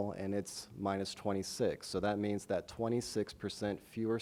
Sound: none

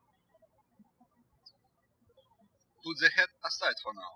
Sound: birds chirping

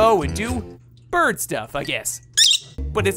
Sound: chirping

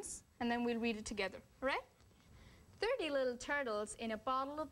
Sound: American accent

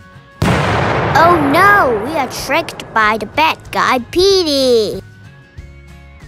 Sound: explosion

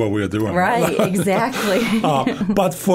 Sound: chuckling

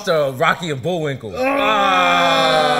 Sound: groaning

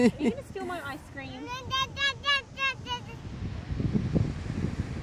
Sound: babbling

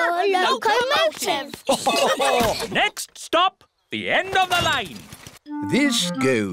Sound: laughter

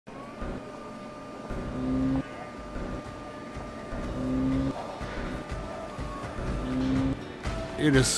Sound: machining noise

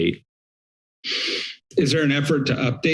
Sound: sniffs

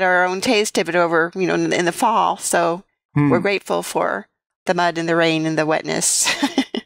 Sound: laughter

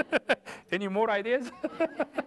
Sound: laughter

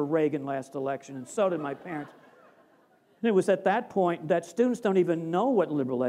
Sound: laughter

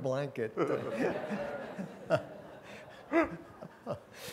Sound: laughter

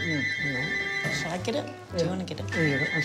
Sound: phone rings

